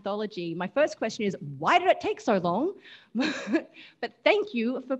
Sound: laughs

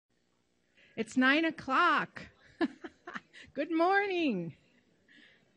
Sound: laughs

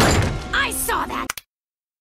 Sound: thuds; remote control clicks

